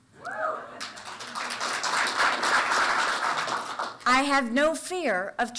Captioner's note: applause